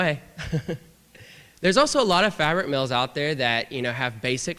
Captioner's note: laughter